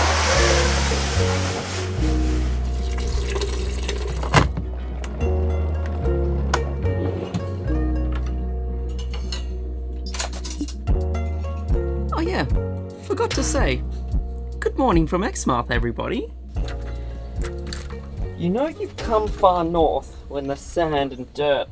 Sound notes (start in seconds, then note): 0.0 blinds sliding down; 4.0 water running; 7.1 cabinet sliding